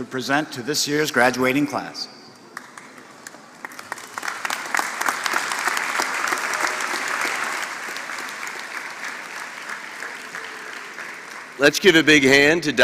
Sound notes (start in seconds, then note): 2.5 applause